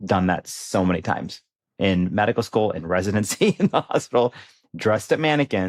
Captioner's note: chuckles